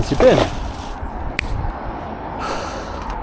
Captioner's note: snap